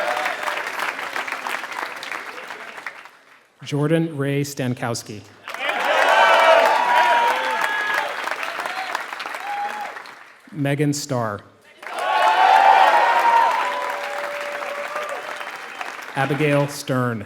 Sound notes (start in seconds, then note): 0.0 applause; 5.4 applause; 11.7 applause